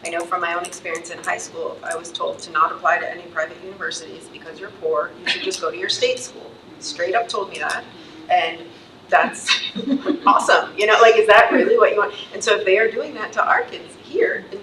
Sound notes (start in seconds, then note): 9.6 trustees laughs